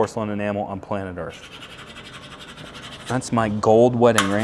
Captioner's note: metal scratching